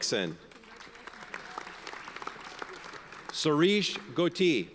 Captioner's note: audience applauds